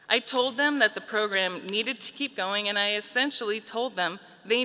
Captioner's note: none